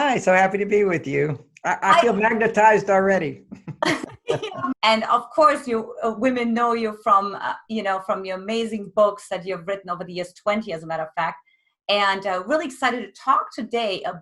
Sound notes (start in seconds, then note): 3.5 both laugh